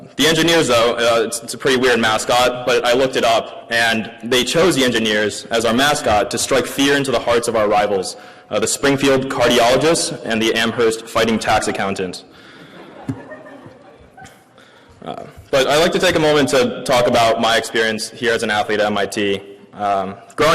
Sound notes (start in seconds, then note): 12.6 audience laughing